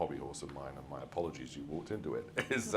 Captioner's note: laughs